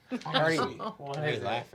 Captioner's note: laughing